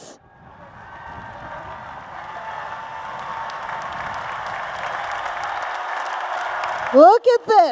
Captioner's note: applause and Cheers